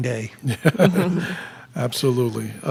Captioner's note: laughing